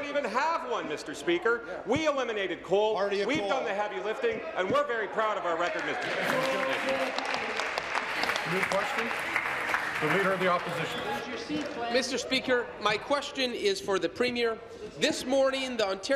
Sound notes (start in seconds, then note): 10.5 applause